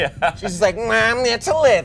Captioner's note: laughs